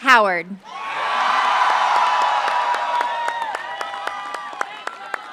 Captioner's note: applause